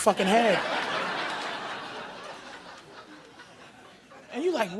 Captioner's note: audience laughing